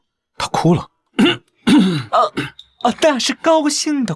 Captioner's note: ahem